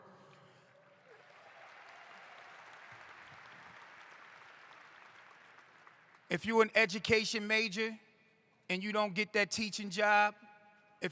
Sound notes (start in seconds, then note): 0.6 applause